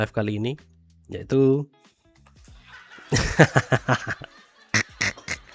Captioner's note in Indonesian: tertawa